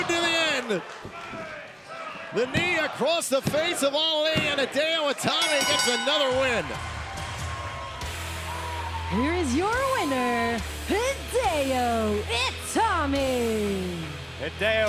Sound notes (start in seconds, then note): 5.3 bell ringing